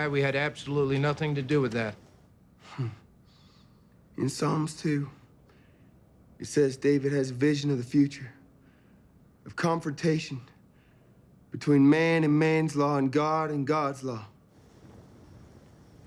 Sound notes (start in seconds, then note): 2.8 David scoffs